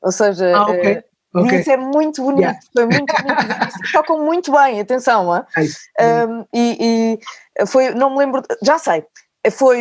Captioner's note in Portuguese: risos